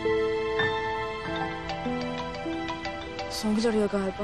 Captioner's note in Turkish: Telefon çalması